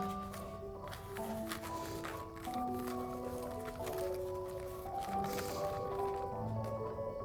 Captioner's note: paper scrunching; gentle music continues